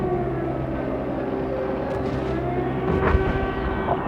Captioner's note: explosions